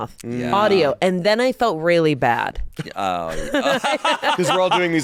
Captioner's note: laughs